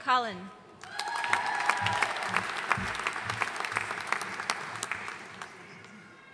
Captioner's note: audience cheering and applauding